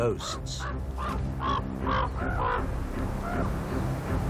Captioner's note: raven squawking